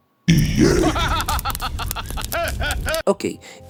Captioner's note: evil Laughter